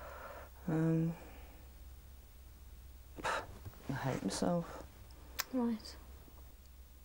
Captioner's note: sighs